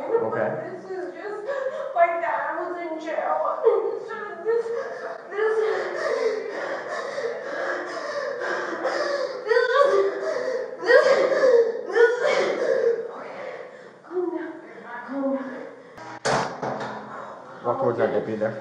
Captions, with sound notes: but this is just like, the animals in jail. *crying* this...this... *crying* *hyperventilating* Okay...calm down....calm down. *breathing sigh of relief* Walk towards that deputy there.